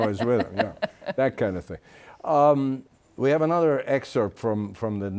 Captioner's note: laughs